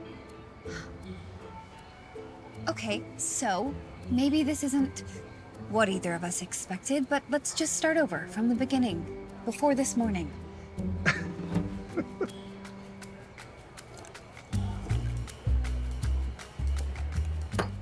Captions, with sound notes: - Okay, so, maybe this isn't... what either of us expected but let's just start over from the beginning, before this morning. (chuckles) (playful music)